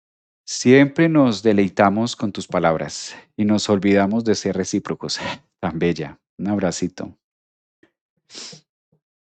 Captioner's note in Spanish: resoplido